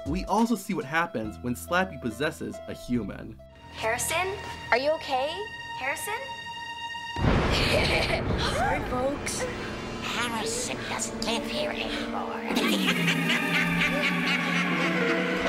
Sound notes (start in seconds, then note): 7.6 laughs; 12.4 Slappy laughs